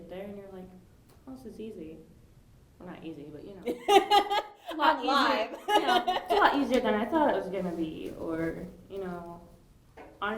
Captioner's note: laughing